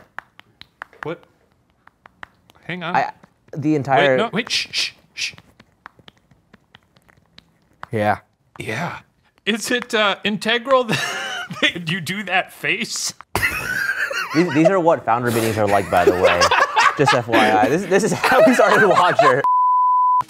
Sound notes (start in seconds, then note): 10.9 laughs